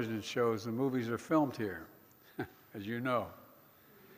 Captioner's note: laughs